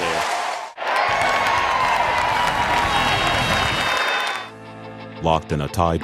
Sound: cheering

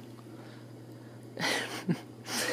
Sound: laughing

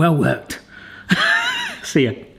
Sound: laughing

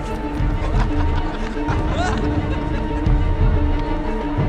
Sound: men laughing

